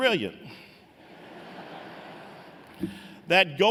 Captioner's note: laughter